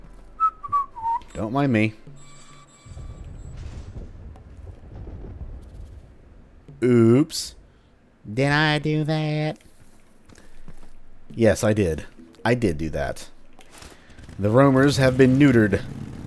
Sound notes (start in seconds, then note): 0.3 innocent whistling; 2.9 big, distant boom; 8.2 steve urkel voice